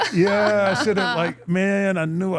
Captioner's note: participant laughing